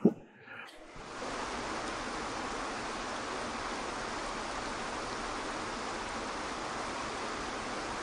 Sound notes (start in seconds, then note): 0.9 waterfall crashing